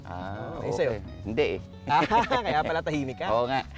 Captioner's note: laughs